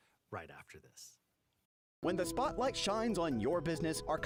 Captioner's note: voiceover